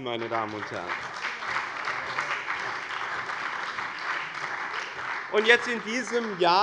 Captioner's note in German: Beifall bei dem BÜNDNIS 90/DIE GRÜNEN und der CDU